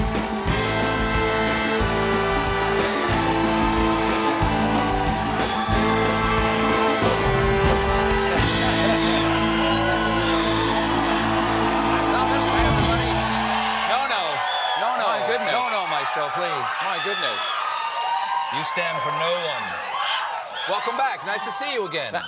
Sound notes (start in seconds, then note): 0.0 band playing; 0.1 cheers and applause; 19.7 cheers and applause